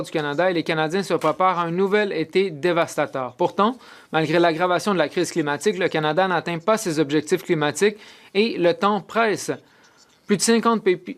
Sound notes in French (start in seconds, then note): 0.5 voix de l'interprète